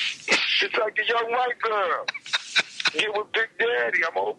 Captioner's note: Marc laughs